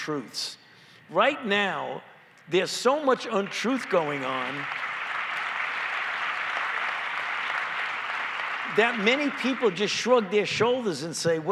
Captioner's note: applause